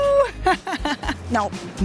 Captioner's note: laughs